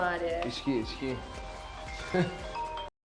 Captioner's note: laughs